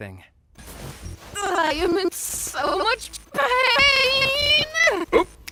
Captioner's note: voice glitching, stuttering